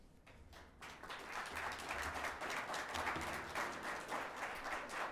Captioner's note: audience clapping